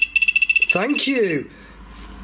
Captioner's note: beeping